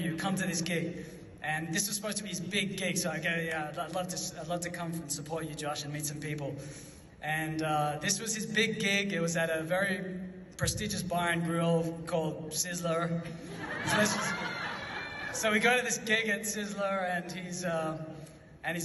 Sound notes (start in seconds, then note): 13.4 audience laughs